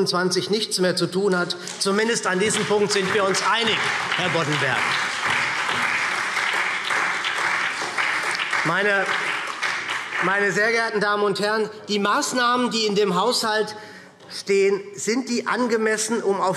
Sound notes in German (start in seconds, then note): 8.8 Beifall SPD und Freie Demokraten